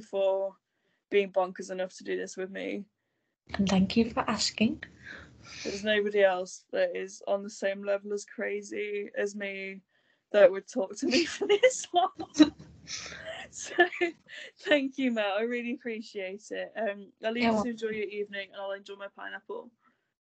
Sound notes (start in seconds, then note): 11.1 both laugh